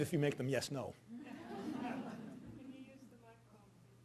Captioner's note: audience laughing